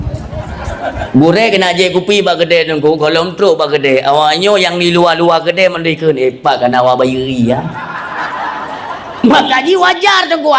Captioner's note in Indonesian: tertawa